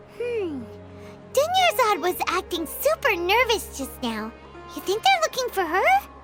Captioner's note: none